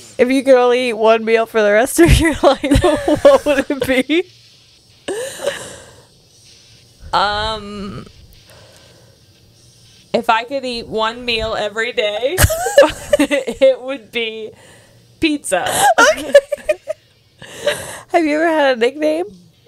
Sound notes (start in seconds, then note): 15.7 laughs